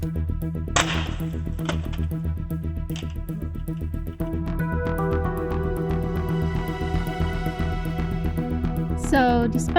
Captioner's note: impact hit